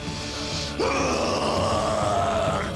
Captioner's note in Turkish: Müzik - Gerilim; Bağırma sesi